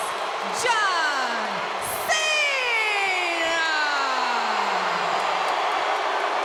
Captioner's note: crowd cheering